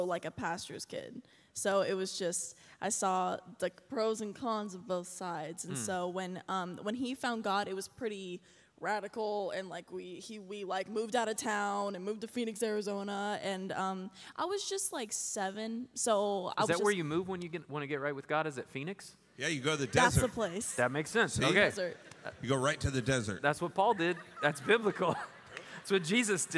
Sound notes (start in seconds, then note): 19.8 laughter